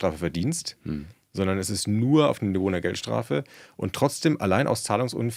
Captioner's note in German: räuspern